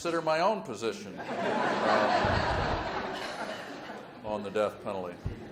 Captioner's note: audience laughs